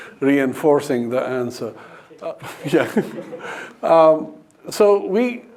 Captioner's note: laughs